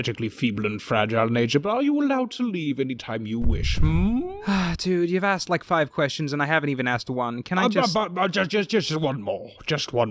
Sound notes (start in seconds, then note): 4.2 sigh